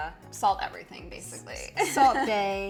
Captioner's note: chuckling